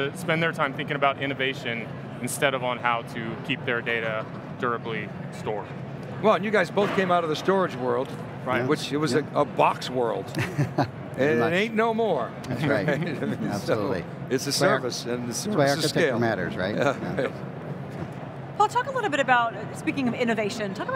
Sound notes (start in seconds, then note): 10.3 laughs